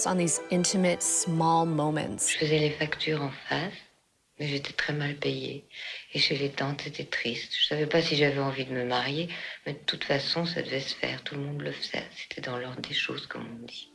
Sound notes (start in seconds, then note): 2.1 speaking French